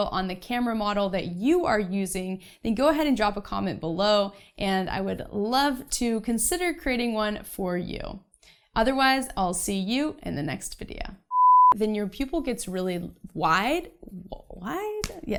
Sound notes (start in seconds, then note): 11.3 beep